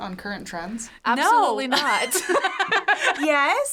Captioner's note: laughs